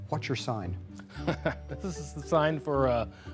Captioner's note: laughter